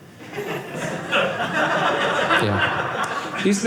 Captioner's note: audience laughing